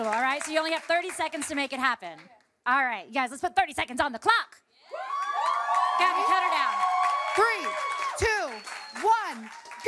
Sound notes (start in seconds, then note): 4.8 cheering, applause